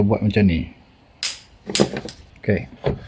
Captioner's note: dropping sound